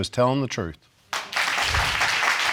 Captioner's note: audience applauding